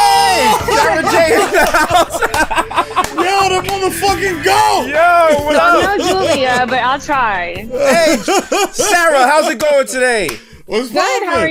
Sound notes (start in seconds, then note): 0.4 laughter; 2.3 laughs